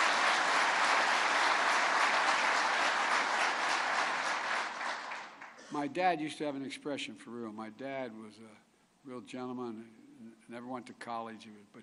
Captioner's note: applause